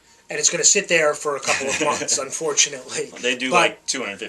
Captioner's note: chuckles